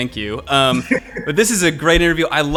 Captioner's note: laughing